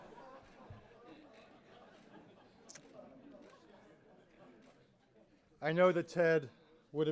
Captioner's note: laughter